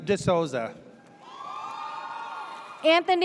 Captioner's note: audience cheers